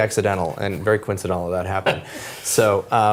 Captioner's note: laugh